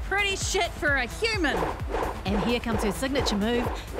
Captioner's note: mic cord swinging; zapping sounds